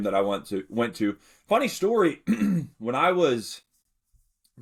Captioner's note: clears throat